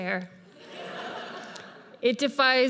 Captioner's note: audience laughs